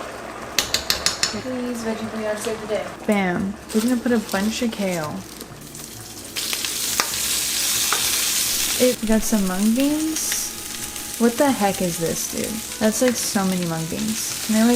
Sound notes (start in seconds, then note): 0.6 clanks spoon; 7.3 kale sizzling